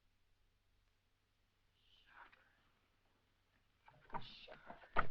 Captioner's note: whispers